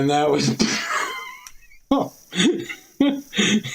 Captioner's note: laughter